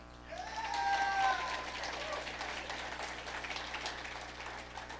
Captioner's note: audience applauding